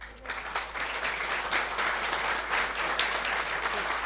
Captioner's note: audience applauds